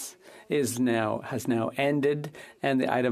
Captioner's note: speaking French